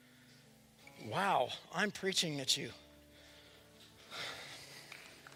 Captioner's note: applause